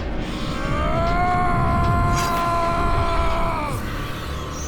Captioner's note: yelling